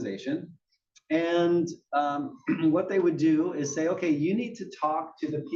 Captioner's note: cough